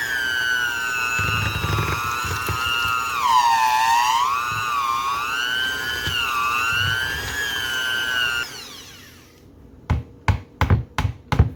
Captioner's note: mixer noises